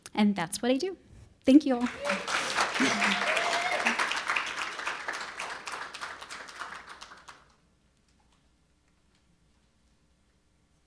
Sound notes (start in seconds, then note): 1.8 audience cheering and applauding